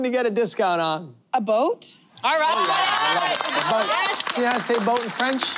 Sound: applause

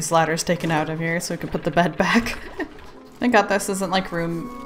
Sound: laughs

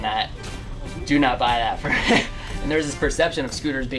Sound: laughs

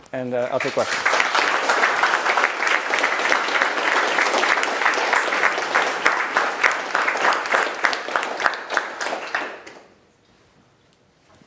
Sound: applause

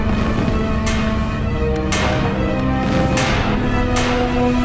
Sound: metal clanking

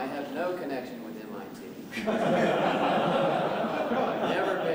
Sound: laughter

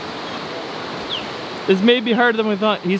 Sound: bird chirping

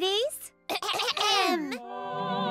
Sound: clearing throats; vocalizing

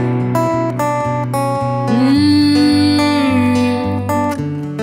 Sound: vocalizing

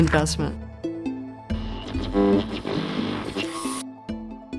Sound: electronic sounds

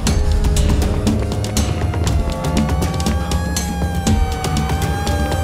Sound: sirens wailing

